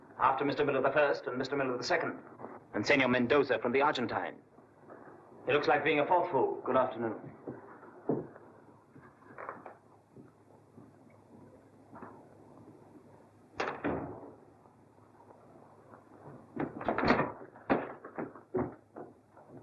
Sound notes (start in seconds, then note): 13.6 door closes; 16.1 scurrying footsteps